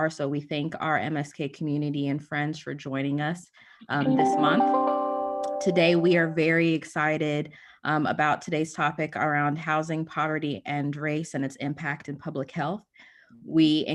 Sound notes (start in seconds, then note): 4.0 notification chiming